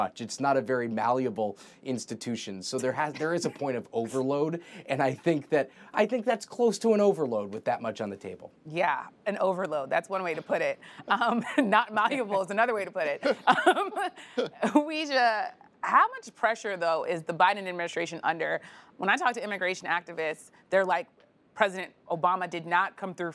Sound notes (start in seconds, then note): 13.2 laughter; 13.2 laughs